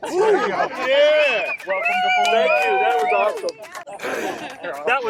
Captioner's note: everyone cheering